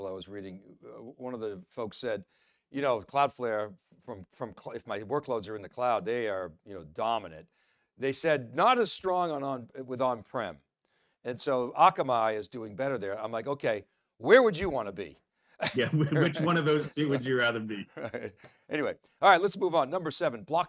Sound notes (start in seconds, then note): 15.6 laughing